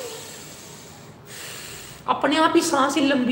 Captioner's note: breathing